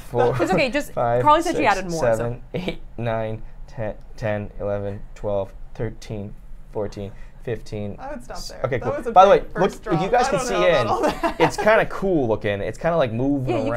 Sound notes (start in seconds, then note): 0.1 chuckles; 3.4 chuckles